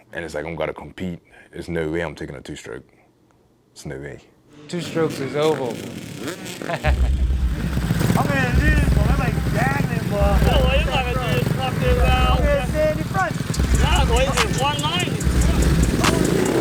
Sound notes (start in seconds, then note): 6.7 laughs; 13.4 rap instrumental begins playing